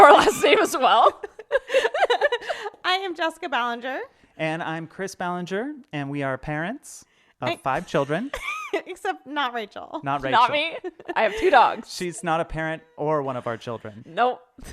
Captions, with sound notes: - It's your last name as well. (laughing) - I am Jessica Ballinger - And I'm Chris Ballinger, and we are parents of five children. - Except not Rachel. - Not Rachel. - Not me, I have two dogs. - She's not a parent or one of our children. - Nope.